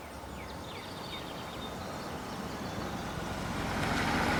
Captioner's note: birds chirping